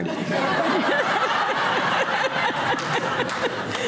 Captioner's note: laughing